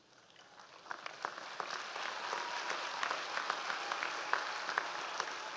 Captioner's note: audience applause